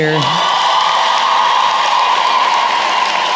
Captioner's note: cheering & applause